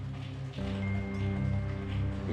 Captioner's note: phone chimes